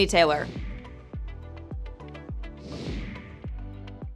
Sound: logo whooshing

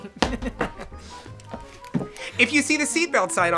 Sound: laughs

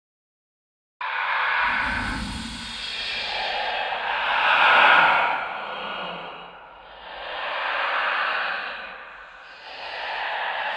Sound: ghost whispers

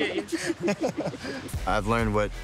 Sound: laughing

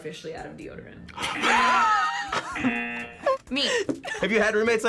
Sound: both laugh; buzzer rings

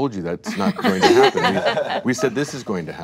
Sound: chuckles

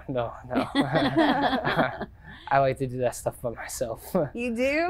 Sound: chuckling

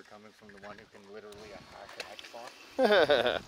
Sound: murmurs; laughs

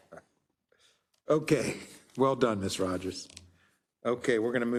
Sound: laugh

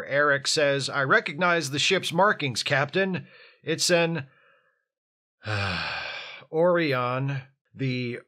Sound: sigh

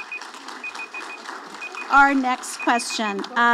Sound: audience applauding

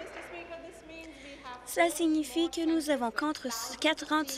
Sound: applause

